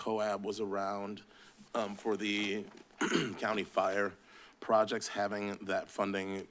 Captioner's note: clears throat